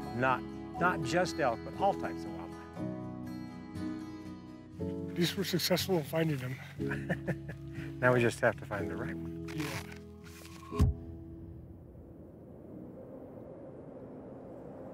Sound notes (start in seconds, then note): 6.7 chuckling; 11.3 zip zooming